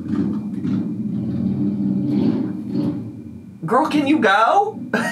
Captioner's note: engine rumbling